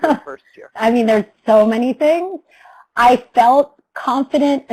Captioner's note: laughs